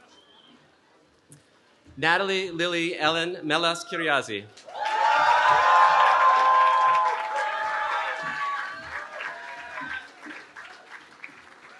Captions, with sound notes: Natalie Lily Ellen Melas-Kyriazi. [CHEERING]